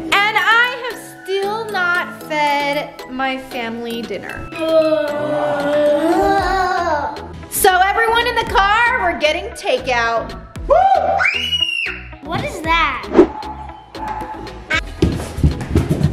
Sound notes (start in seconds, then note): 4.6 family groaning; 10.6 scream